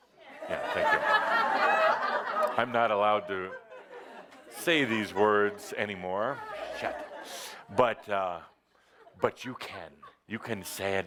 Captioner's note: laughter